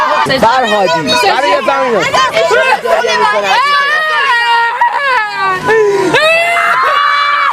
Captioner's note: sound of someone mimicking a cry